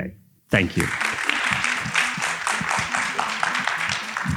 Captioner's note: audience applauding